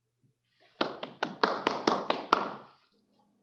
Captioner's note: applause